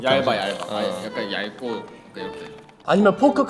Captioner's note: just a clacking sound